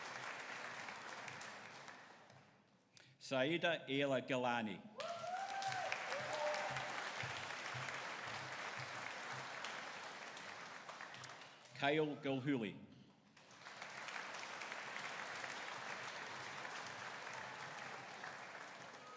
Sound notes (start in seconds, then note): 5.0 audience cheering; 13.4 audience applauding